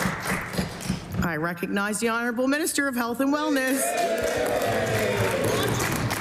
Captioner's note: applause